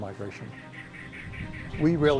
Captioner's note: insects chirping